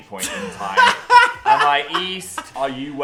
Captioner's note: laughing